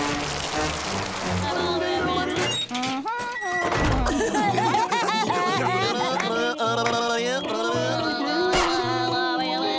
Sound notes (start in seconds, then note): 1.9 humming; 2.9 laughing